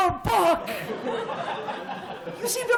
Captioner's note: laughter